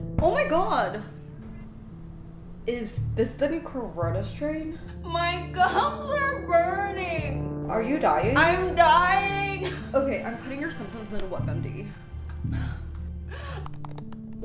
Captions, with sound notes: Oh my god! Is this the new corona strain? My gums are burning Are you dyin-- I'm dying! Okay, I'm putting your symptoms into WebMD (gasping) (typing)